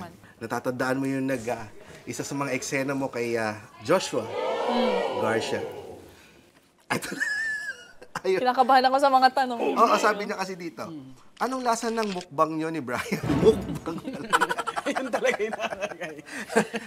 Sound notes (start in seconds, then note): 6.9 laughs; 16.3 laughter